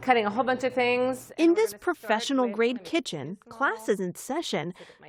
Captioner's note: voice-over